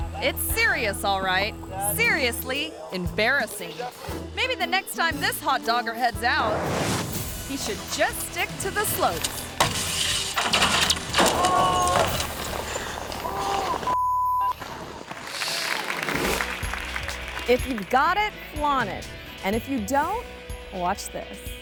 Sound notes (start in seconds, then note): 6.4 image whooshes; 9.4 metal scrapping; 10.2 metal rattling; 11.3 friend groaning; 11.3 metal clanking; 12.4 body thumping; 13.2 friend groaning; 13.8 tone beeps; 15.0 audience clapping; 15.5 image whooshes